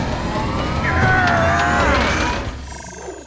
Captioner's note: grunting